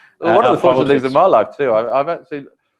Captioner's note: laugh